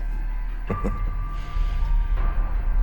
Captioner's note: chuckles